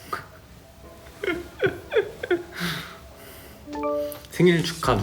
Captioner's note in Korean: 웃음